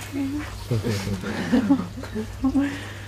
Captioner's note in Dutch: zacht gelach